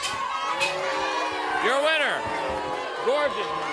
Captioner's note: bell ringing